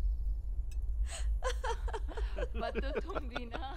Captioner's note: All laughing